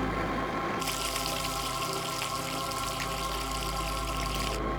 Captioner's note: water running